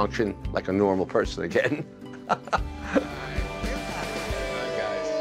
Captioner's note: laughs